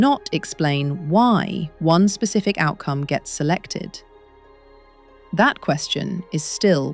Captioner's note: serious tone